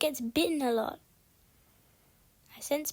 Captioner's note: loud akward silence